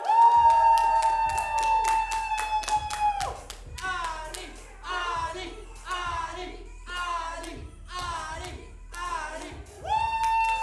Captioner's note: cheering and chanting